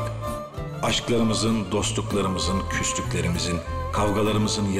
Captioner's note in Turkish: dış ses